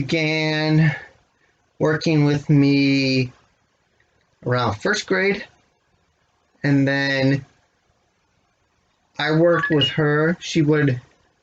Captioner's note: beep of other camera dying